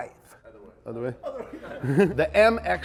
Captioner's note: laughs